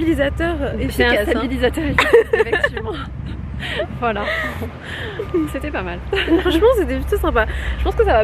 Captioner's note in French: rires